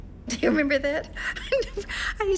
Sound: chuckling

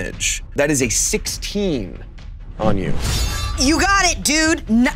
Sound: blade shings

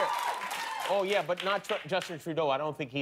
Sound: cheers and applause

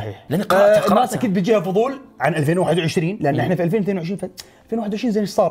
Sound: none

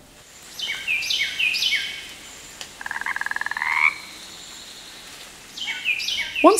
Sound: bird chirping; frog croaking

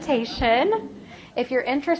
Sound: laughing

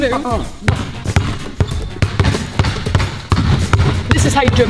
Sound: ball bouncing

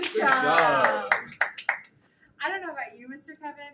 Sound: hands clapping

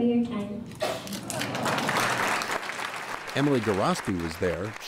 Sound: crowd applauding

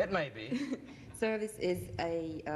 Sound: laughs

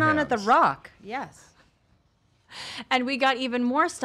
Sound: laughing

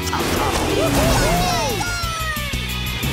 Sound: cheering

